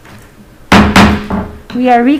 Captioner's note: gavel bangs